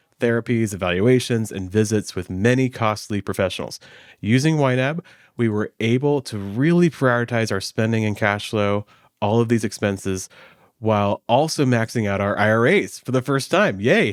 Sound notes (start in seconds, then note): none